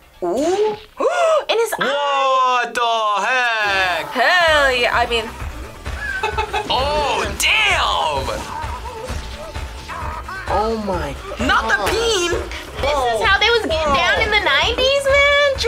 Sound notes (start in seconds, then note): 1.0 gasps; 5.9 laughs